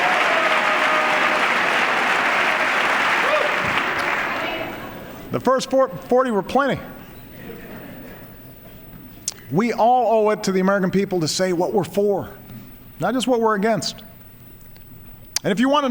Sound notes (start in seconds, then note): 4.6 applause